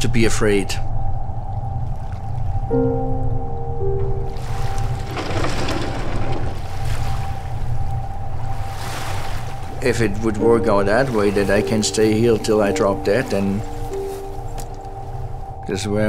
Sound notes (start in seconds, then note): 3.3 boat gently clatters; 6.9 splashing